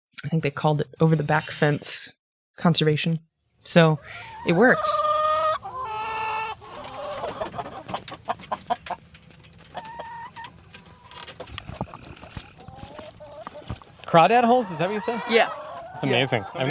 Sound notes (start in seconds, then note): 4.6 chickens clucking; 4.6 crickets chirping